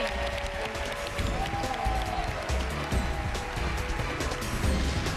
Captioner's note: cheers and applause